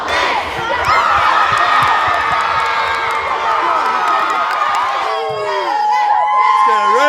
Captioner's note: cheering